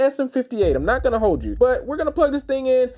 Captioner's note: low Rumble